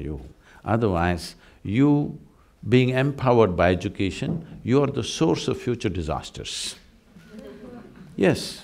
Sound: laughter

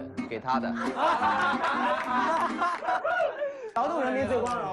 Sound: ha Ha Ha Ha Ha

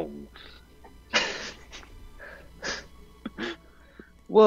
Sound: cast chuckles

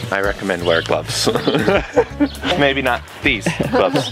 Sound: laughs

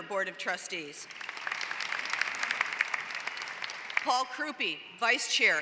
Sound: applause

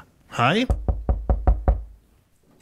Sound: knock, knock, knock

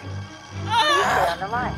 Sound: screams

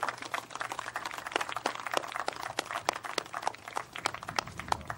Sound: applause

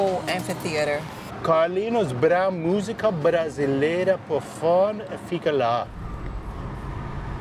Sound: in Portuguese

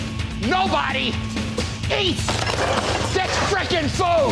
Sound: dishes clattering

